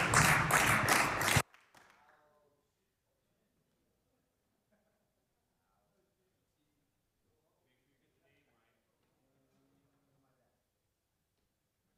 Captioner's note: applause